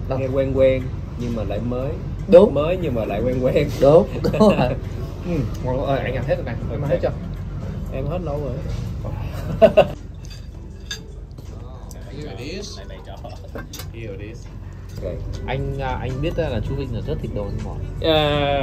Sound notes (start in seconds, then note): 9.2 laughters